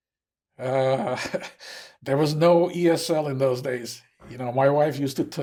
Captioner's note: laughing